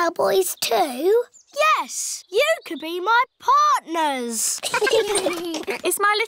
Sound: all giggling

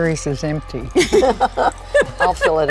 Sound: laughing

